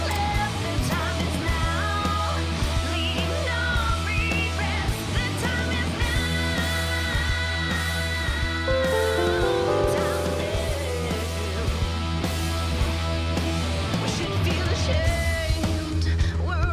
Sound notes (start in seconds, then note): 8.7 rock music; 8.8 phone dings